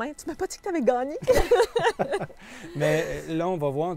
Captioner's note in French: rires